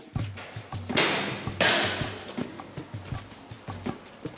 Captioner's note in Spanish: pasos subiendo gradas